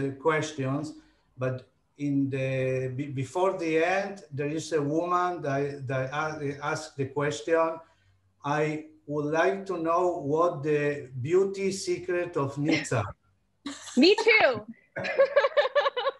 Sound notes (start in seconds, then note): 15.0 laughing